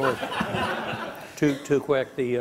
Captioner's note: laughing